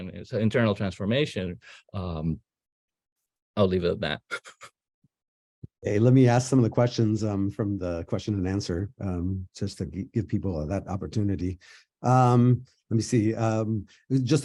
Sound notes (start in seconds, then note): 4.5 laughing